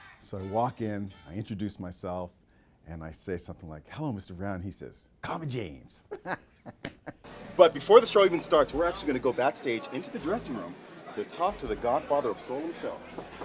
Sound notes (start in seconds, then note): 6.0 laughing